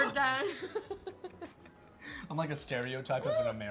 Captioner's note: laughing